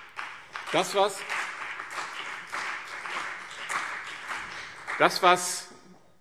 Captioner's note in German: Beifall BÜNDNIS 90/DIE GRÜNEN und CDU